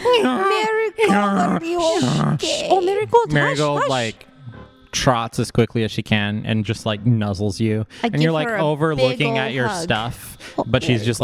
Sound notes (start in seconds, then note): 1.0 brays; 2.2 hushes